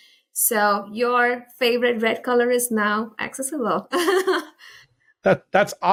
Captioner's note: laughs